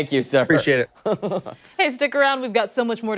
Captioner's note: laughter